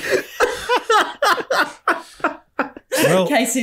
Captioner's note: summons a whooping cough type of laugh. He should see a doctor